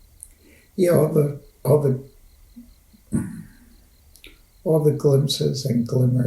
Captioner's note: clears throat